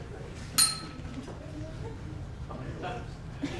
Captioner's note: ding